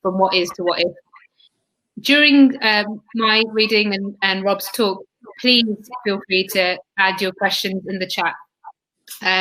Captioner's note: erm